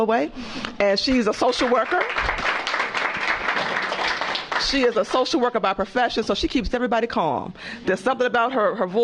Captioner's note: applause